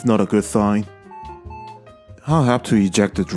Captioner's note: POST beeps twice